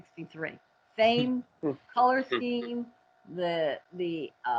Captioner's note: chuckles